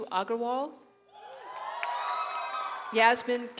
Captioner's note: audience cheers